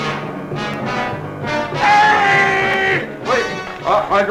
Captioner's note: suspenseful music; shouts